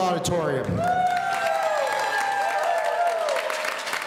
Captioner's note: audience cheering